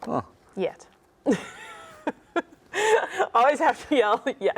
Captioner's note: laughs